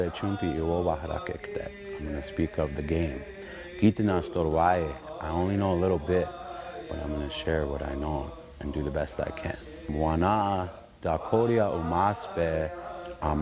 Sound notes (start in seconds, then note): 3.8 speaking in Dakota; 10.4 speaking in Dakota